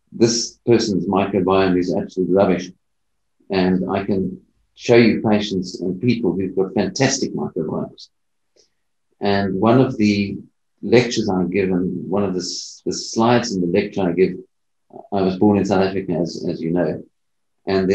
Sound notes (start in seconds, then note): none